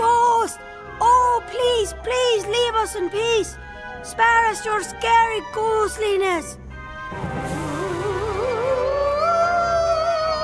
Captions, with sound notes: Oh ghost, oh please, please leave us in peace. Spare us your scary ghostliness. (ghostly wailing)